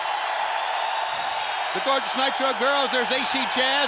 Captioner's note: crowd cheering